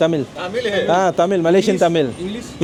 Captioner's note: speaking Nepali